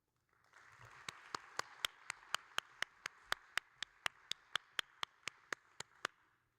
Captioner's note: audience and applauding